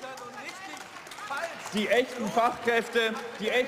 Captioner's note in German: Beifall und Zwischenrufe